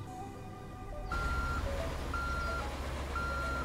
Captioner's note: truck beeping